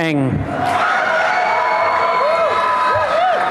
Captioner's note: applause and cheering